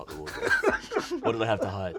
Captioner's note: laughing